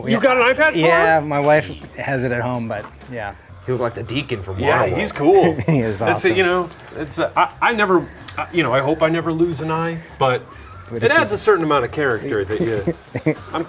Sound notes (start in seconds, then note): 4.7 chuckles; 7.2 stammers